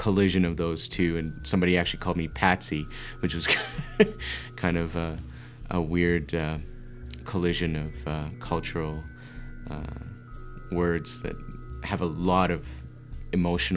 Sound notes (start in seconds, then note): 4.6 laughs